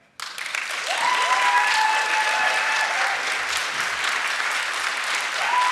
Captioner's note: audience cheering and applauding